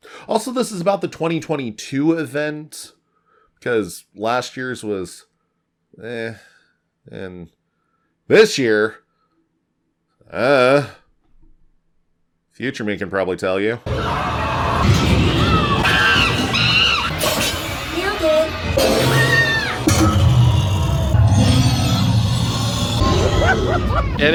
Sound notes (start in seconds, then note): 13.9 roars, snarls, screeches, and other happy horror noises; 18.7 more roars, snarls, screeches, and other happy horror noises